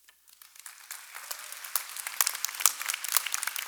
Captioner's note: applause